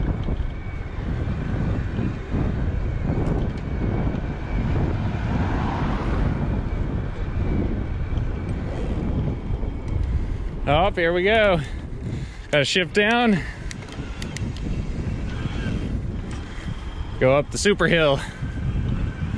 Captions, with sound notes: (rotor cranking) Oh, there we go. A shift down. (gears clicking) (electric motor whining) Go up the super Hill.